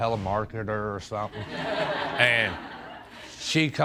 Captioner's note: audience laughs